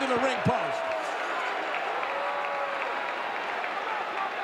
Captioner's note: audience cheering